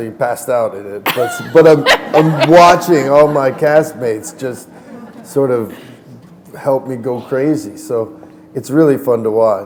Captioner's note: laughter